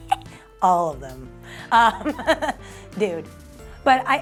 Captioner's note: laughs